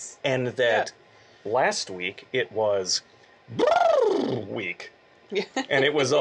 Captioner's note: motor sound